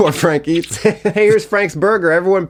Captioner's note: chuckling